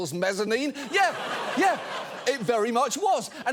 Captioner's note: studio audience laughing